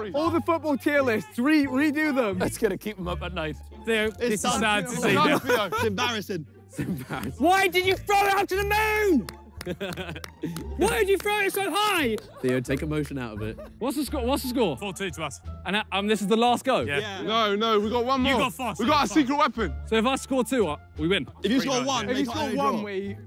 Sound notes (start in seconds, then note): 9.0 player laughs and claps